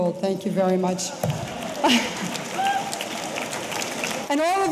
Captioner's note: audience applauding; audience cheering